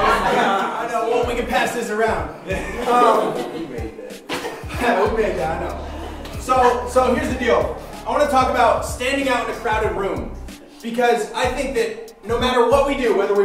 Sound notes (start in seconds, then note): 0.0 voiceover; 0.0 laughing; 2.4 laughing; 4.3 voiceover